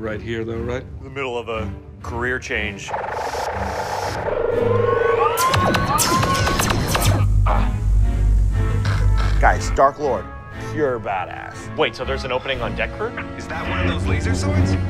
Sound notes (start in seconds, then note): 3.0 hovering sounds; 5.2 laser fire